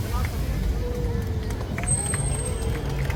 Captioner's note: applause